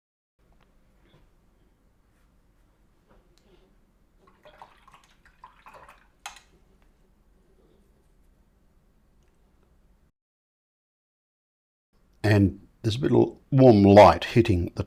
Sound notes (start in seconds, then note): 3.4 silence